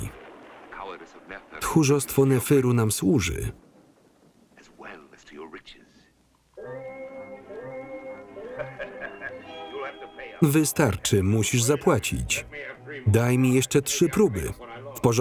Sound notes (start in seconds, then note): 8.4 laughing